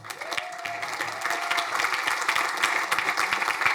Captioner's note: crowd applauding